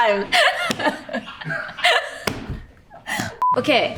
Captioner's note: Ayo laughing